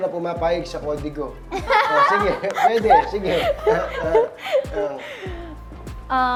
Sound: laugh

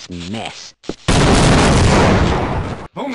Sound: explosions

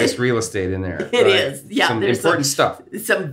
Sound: laughs

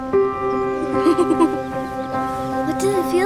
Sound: girls giggling

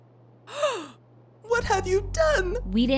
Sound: gasp

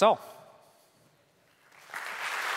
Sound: applause

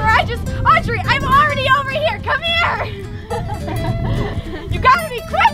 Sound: laughter

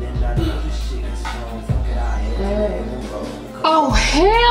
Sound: moans

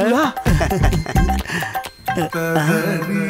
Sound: laughs

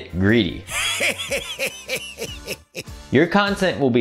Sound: laughter

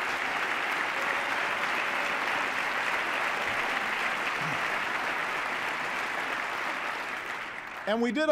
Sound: cheers, applause

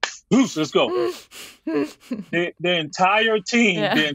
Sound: giggling

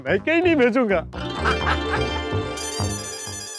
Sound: laughing

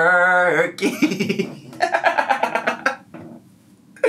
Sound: laughs

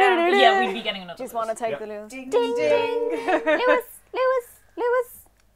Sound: montage noises; chorus of 'Ding-Ding's

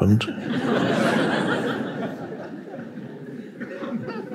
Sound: audience laughing

